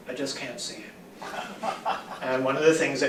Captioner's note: laughter